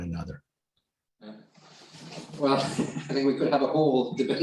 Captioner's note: laughter